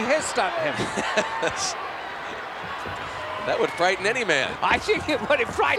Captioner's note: laugh